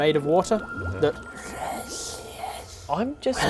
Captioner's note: hisssss